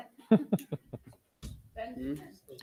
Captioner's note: member laughing